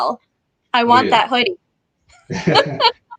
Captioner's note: laughs